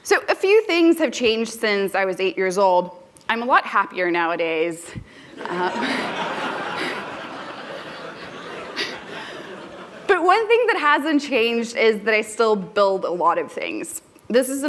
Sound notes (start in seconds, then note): 5.4 laughter